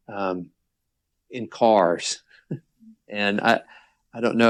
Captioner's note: chuckles